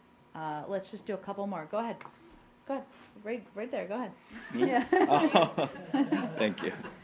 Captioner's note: laughter